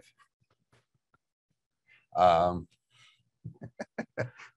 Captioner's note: both laughing